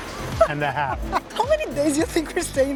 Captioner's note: laughs